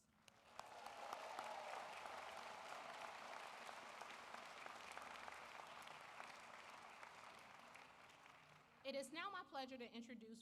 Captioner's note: applause